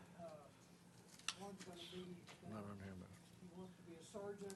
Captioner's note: off mic